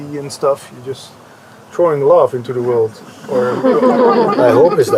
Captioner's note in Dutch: gelach